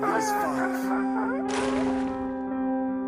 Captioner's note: another new born Baby makes a noise for the first time